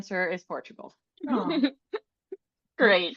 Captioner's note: people laughing